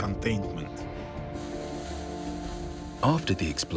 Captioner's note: water sprinkling